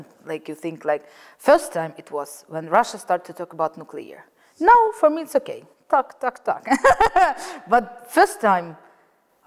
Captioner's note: laugs